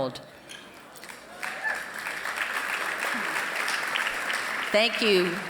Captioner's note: applause